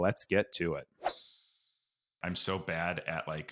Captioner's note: air whooshes